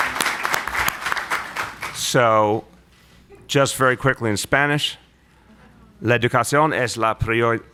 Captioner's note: applause